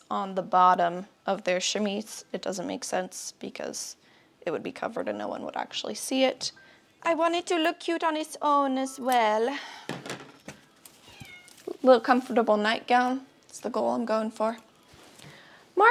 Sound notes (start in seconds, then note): 11.0 cat cry